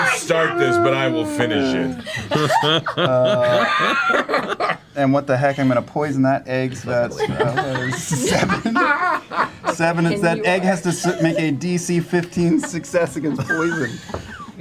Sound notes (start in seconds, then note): 6.8 laughing; 14.3 all laugh